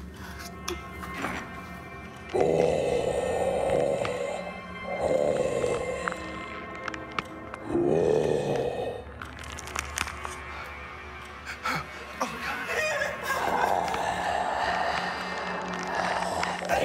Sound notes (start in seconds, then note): 0.0 Mark grunting; 0.0 intense music; 2.3 mummy growling; 2.4 bones cracking; 11.6 Holly sobbing; 13.3 mummy snarling